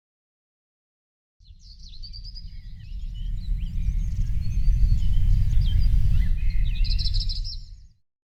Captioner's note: birds chirping